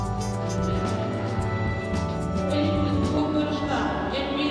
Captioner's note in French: Stade et bruit de la foule